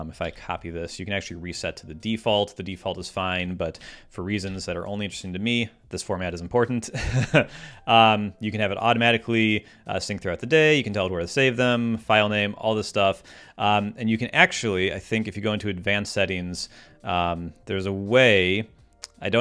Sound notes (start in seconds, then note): 7.0 laughs